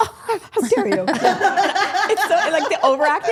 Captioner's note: group laughing